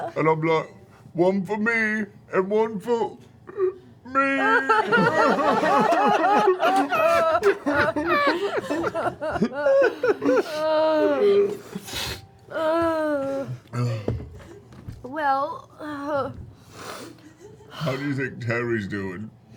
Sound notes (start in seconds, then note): 4.6 sobs; 6.3 laughter